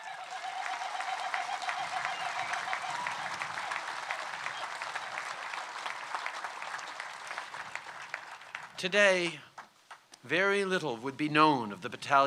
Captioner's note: cheers & applause